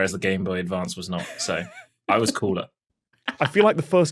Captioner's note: laughs